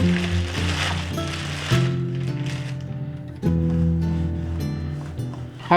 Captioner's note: plastic bag crinkling